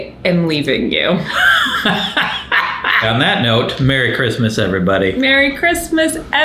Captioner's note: laughs